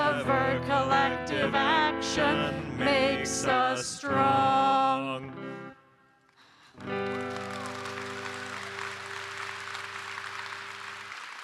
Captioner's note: applause